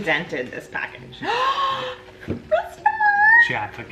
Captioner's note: gasps loudly